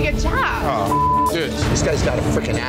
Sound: beep

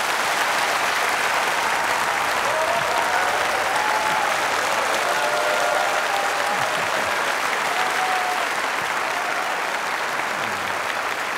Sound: applause

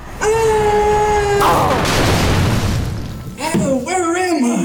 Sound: Smoke Screams

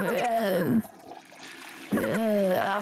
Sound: toilet flushes

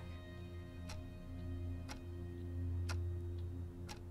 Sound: clock ticks

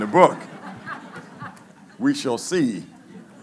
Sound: laughing

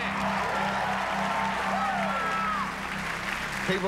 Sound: cheers and applause

